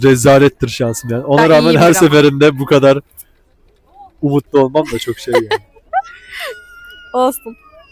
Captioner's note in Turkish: kahkaha